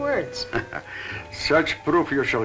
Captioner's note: chuckling